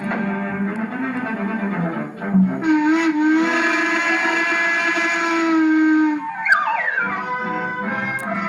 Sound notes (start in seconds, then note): 2.4 whistle Blows